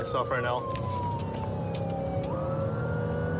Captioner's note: siren blaring